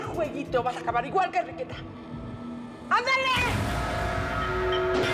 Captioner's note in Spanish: portazo